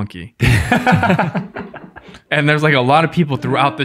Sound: all laugh

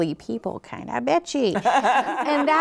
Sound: laughs

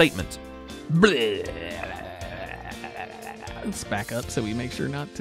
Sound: joking vomiting noises

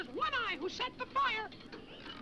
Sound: bike rattles

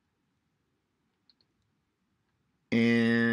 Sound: mouse clicking

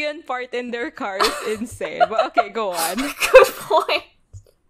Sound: laughing

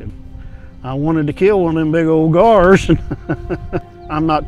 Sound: laughs

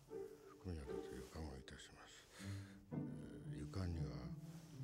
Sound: mumbles to self

